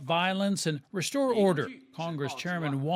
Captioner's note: speaking Foreign Language